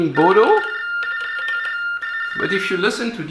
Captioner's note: TDD Baudot tones